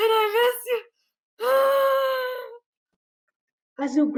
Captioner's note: sigh